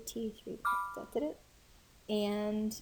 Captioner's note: device chimes